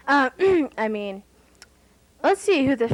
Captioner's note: ahem